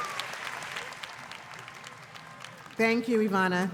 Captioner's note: cheers and applause